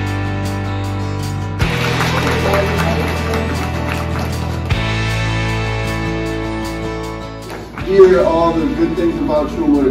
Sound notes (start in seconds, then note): 1.6 class applauds